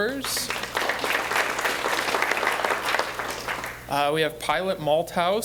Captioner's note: applause